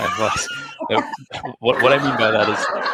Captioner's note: all laughing